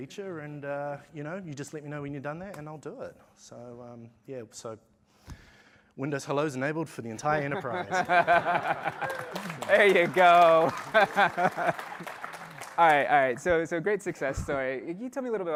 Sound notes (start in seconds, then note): 7.4 laughter; 9.8 applause